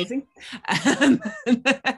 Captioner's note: laughing